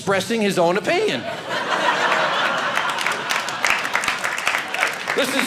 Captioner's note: audience laughing